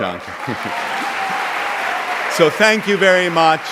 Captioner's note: audience applauds